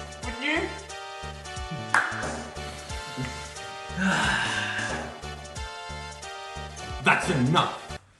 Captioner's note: the sounds of victory